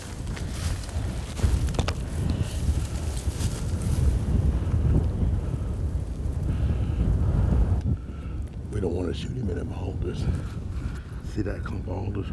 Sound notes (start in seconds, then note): 0.0 wind noises; 2.0 wind gusting